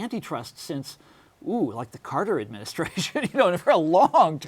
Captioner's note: laughs